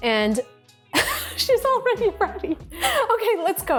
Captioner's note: laughing